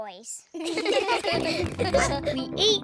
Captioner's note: snorts; all laugh